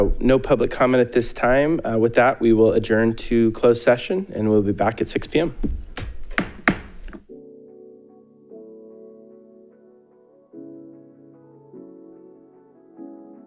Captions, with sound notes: - No public comment at this time. With that, we will adjourn to closed session and we'll be back at 6 pm. (gavel bangs) (light, upbeat music)